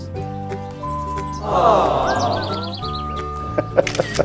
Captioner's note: generic audience sound clip of people awwing